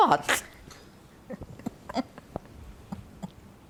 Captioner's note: laughing